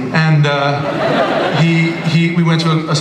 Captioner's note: laughter